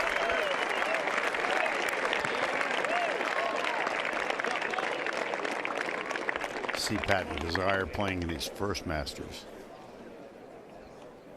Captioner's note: applause